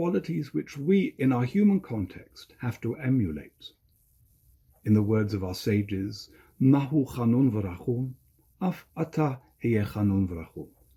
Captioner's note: Hebrew language